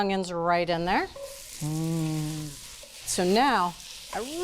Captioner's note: oil sizzling